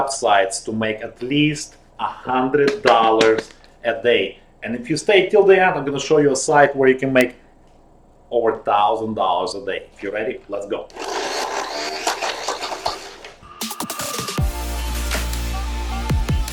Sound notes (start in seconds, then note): 10.8 whirring; 13.4 upbeat music